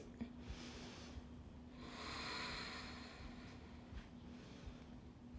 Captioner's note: breathes deeply